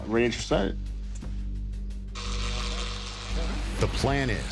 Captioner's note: radio buzzing